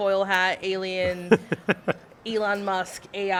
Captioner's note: laugh